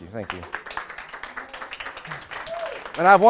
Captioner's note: audience applauds